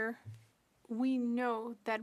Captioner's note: speaking French